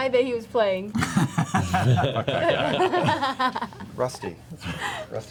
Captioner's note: laughter